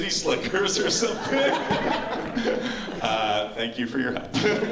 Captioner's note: laughter